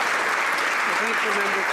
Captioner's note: some Applause